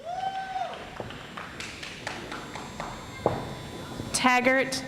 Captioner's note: audience applauds